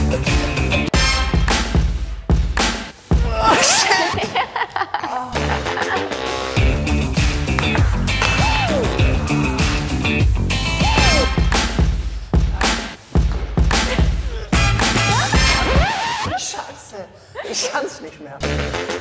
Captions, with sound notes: (Breakdance music) Oh shit. (laughter) (Breakdance music) Sh**! I can't do it anymore.